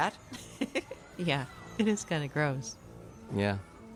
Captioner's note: giggles